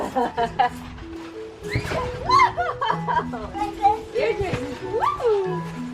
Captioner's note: bright music; laughs